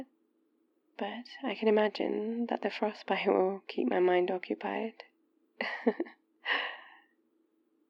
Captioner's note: laughs